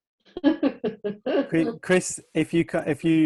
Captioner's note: laughing